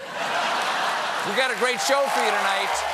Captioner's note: laughter